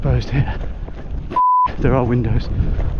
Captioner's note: beep